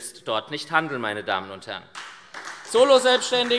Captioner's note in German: Beifall SPD